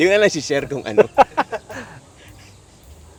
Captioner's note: laughs